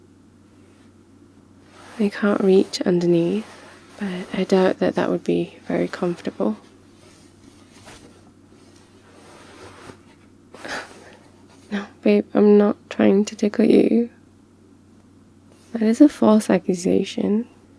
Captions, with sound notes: I can't reach underneath but I doubt that that would be very comfortable *gasps* no, babe I'm not trying to tickle you that is a false accusation